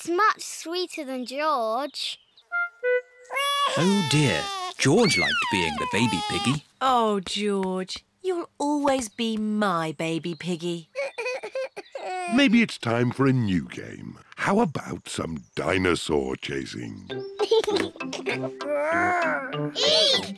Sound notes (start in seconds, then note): 3.3 bawls; 17.4 giggles